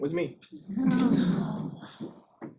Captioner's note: audience laughs